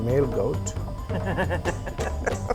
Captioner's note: ^laughter^